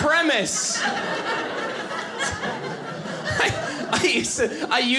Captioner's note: audience laughing